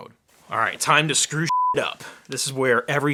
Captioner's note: beep